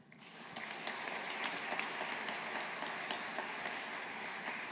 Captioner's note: audience applauding